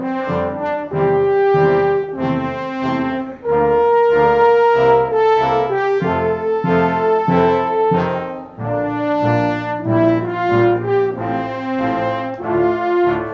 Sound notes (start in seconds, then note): none